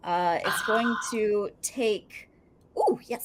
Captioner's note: cheers faintly